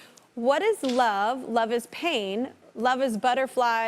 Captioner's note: none